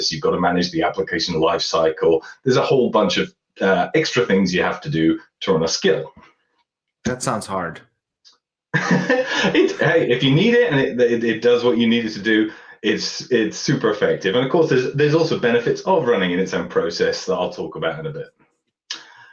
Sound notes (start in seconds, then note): 8.7 laughter